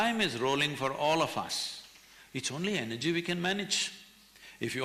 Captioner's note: none